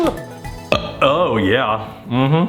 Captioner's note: burps